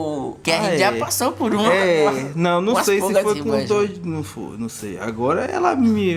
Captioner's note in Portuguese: risos